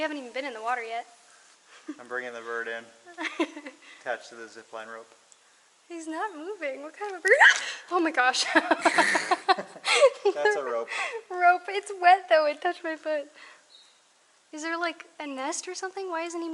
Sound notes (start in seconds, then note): 3.1 laughter; 7.2 screams; 8.4 laughter